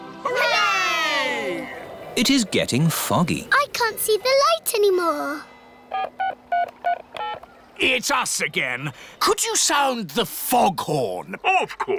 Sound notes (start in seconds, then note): 7.1 dialing